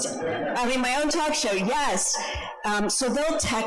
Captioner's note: audience laughs